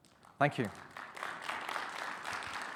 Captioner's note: audience clapping